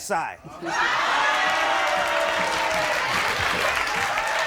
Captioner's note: audience cheers